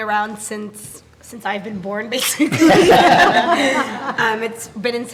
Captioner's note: laughing